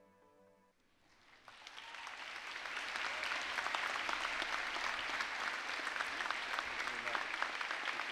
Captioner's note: applause